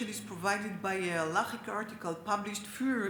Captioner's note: speaks Hebrew